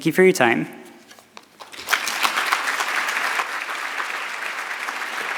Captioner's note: audience clapping